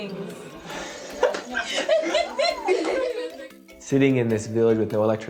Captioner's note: laughing